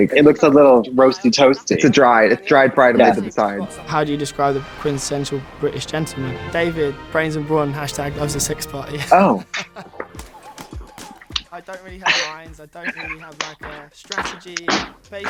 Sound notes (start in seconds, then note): 3.7 classical music; 8.6 laughs; 10.3 upbeat music